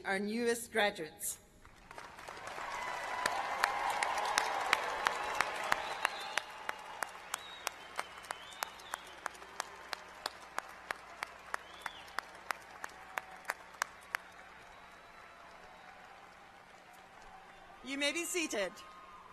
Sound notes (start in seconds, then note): 15.7 applause